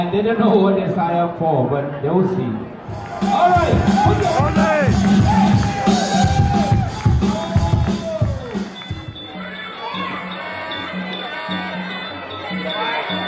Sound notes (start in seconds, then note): 4.7 cheering